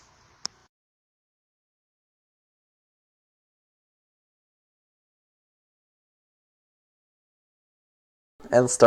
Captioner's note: silence